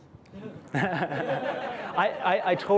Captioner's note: laughter